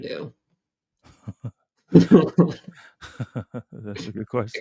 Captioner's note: laughter